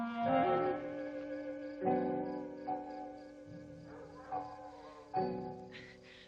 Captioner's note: wolves howling; light dramatic music